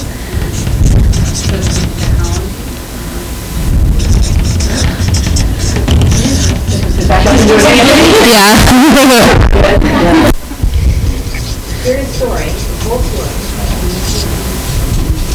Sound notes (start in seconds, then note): 8.2 students laughing; 9.6 students mumbling